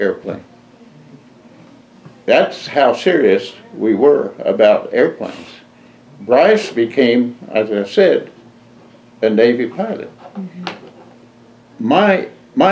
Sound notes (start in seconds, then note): none